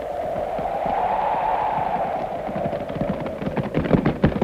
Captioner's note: horses clattering